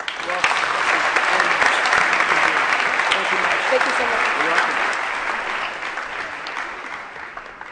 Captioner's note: applause and Inaudible Remarks